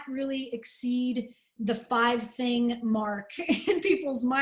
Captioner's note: laughter